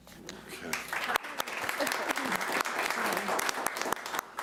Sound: applauding

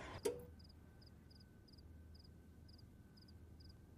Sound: TV clicks

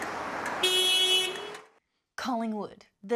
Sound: car horn blares

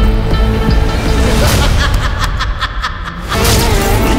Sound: laughing

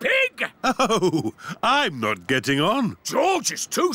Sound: chuckling

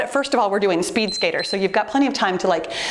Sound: timer beeps

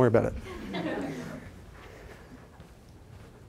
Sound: laughter

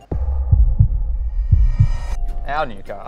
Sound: suspenseful Heartbeat

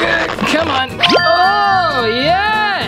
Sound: grunts; beep

